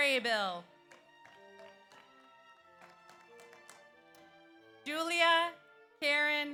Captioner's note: audience applauds